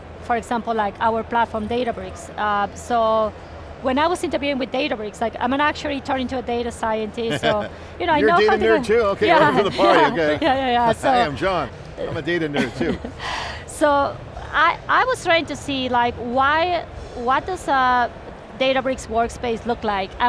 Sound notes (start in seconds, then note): 7.3 chuckles; 9.3 laughs; 12.5 laughs